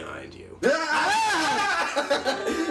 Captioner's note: screams